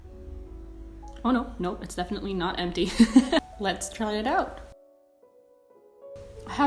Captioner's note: laughs